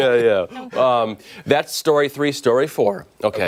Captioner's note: laughter